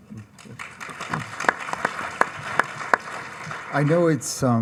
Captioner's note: audience applauds